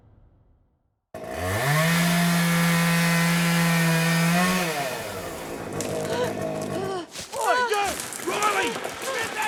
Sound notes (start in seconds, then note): 1.1 chainsaw buzzing; 6.2 Eddy gasping